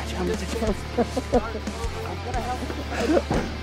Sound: crying

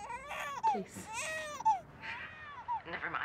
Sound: baby crying

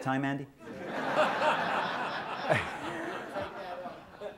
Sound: laughter

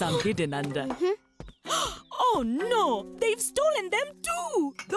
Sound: gasping

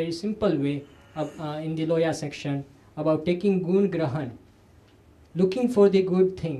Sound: sanskrit

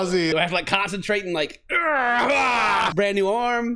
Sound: noise of constipation

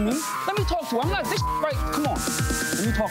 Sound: beeps

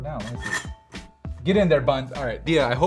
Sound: toaster hinges creaking

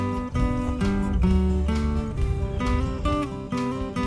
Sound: birds chirping

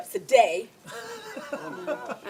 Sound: laughter

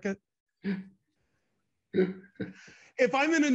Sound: laughing loudly

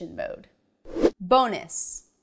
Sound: animation whooshes

